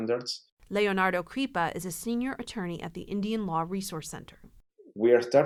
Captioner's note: voice-over